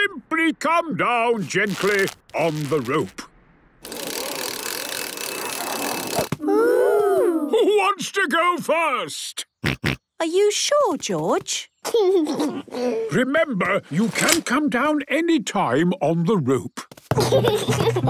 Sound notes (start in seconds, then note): 10.2 George snorts; 12.1 giggles